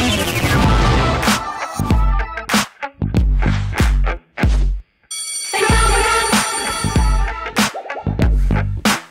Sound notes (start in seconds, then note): 5.1 bell rings; 5.5 upbeat music